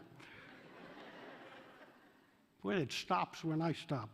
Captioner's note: laughter